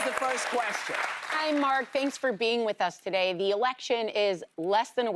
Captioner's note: applause